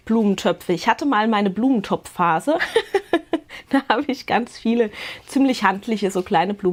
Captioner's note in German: gelächter